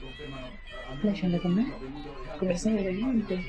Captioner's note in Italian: urla e proteste all'esterno